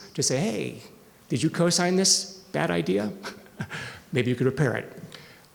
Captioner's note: chuckles